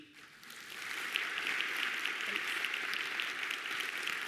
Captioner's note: audience claps